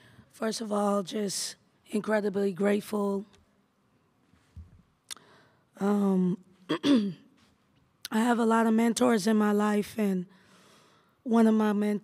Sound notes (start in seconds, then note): 6.7 clears throat